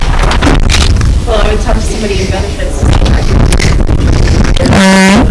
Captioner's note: student mumbling